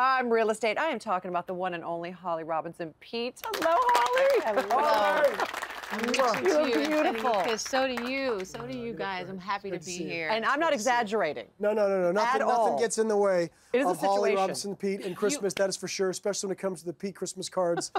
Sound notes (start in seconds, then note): 3.4 applause